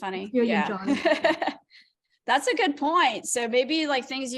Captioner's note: laughter